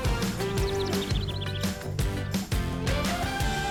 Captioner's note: wildlife chirping